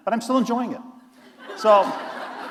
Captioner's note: laughter